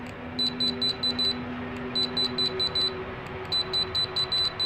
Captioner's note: radiation meter alarm sound